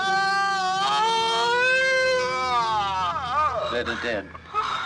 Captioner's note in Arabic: غاري يصرخ